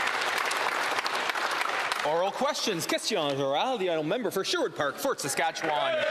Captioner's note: applause